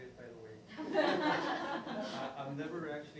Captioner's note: laughing